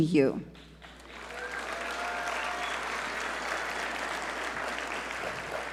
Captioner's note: audience cheer and applaud